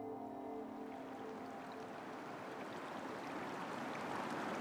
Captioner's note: water whooshing